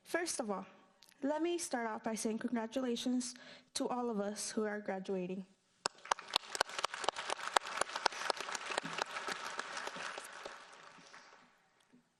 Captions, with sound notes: First of all, let me start off by saying congratulations to all of us who are graduating. (applauding)